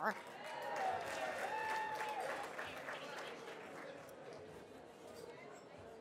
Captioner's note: audience cheers